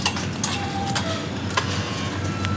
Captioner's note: gate clanks